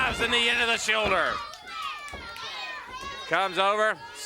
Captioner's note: crowd yelling